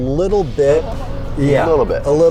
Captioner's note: tire noise sound effect